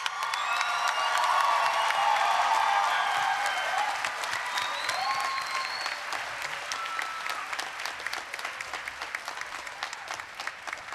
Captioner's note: applause, cheering